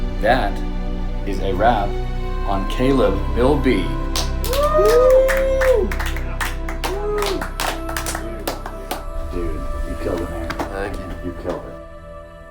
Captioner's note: clapping